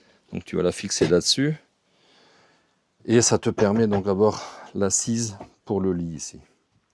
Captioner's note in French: raclement de gorge